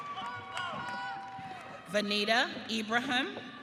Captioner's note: audience cheering